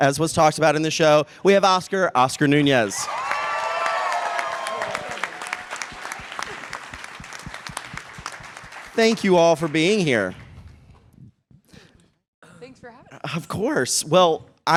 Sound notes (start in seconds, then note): 2.9 cheers and applause